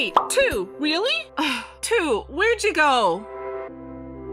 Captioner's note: sigh